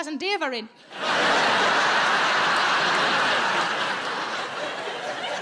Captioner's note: audience laughs